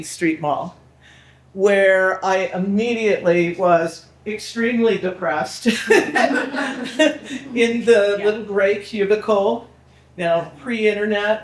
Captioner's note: people laughing